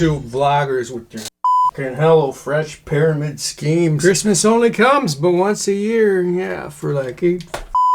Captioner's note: beeping; beeping